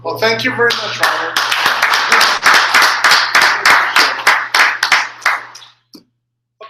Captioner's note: applause